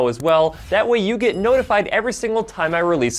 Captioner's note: bell chiming